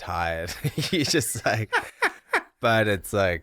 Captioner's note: both laughing